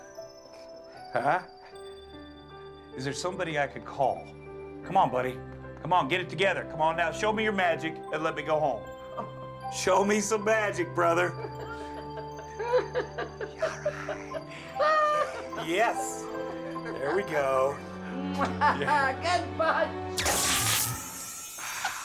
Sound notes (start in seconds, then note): 11.4 giggling